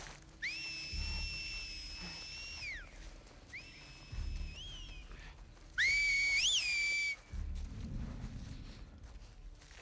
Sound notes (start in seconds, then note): 0.4 whistle